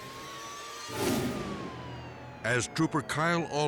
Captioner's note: sirens blaring; dramatic air whoosh